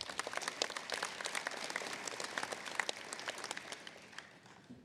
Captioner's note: applause